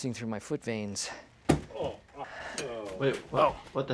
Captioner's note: grunting